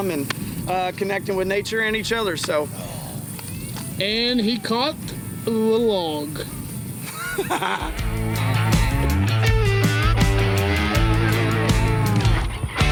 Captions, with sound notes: and connecting with nature and each other. And he caught a little log. (laughs) (rhythmic country instrumental music)